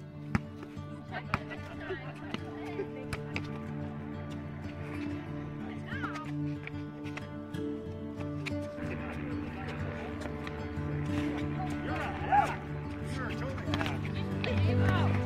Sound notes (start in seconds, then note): 1.5 family laughing; 3.6 inspiring music